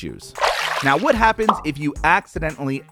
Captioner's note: splash